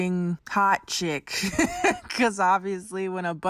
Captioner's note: laughing